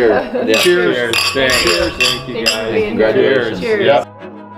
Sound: glasses clink; overlapping chatter; funky music

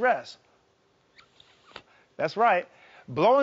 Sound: blowing on thumb

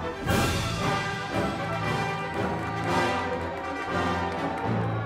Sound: audience applauding

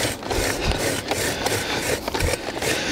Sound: scraping sound

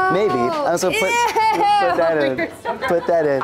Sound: laughs

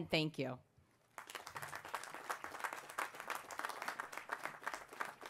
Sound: applause

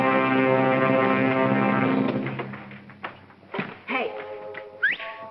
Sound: whistle

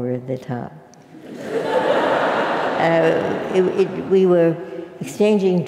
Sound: laugh

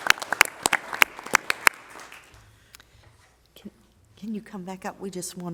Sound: applause

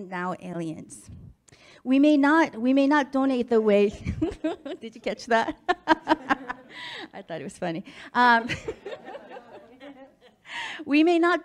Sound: laughs

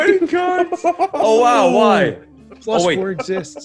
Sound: laugh

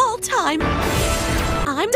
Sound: whoosh with music

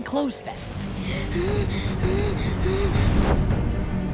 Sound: gasping

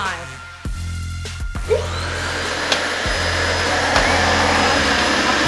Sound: vacuum whirling

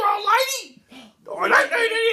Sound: gasps

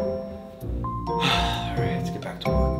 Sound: Dino Dad sighs

